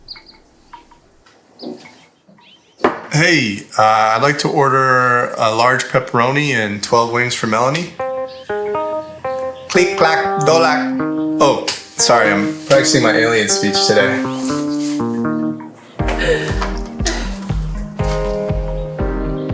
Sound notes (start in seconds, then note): 16.0 laughs